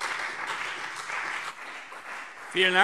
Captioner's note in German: Beifall CDU und BÜNDNIS 90/DIE GRÜNEN